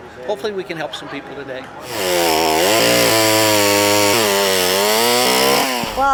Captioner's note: chainsaw